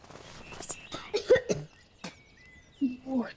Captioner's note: Oliver coughing and spitting